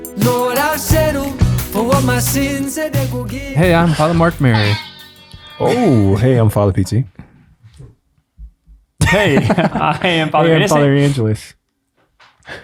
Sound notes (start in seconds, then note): 4.0 sound effect blares; 9.1 laughs